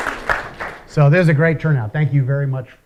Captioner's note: applause